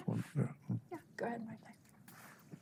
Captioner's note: murmuring